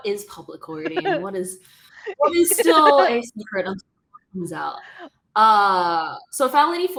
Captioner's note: laughter